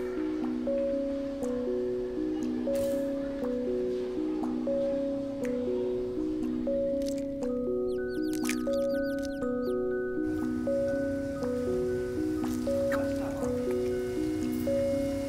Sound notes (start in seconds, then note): 5.9 bird chirping